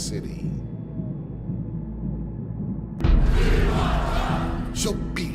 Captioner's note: chanting